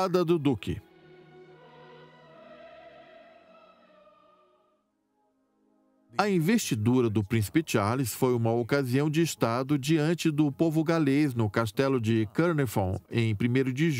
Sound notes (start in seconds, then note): 0.4 choir singing; 5.3 voiceover